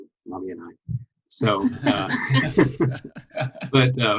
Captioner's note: all laughing